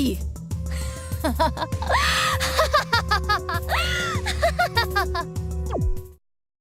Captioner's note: evil laugh